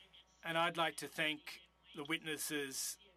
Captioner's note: speaking French